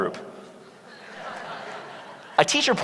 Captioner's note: laughter